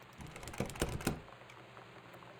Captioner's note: doorknob Rattles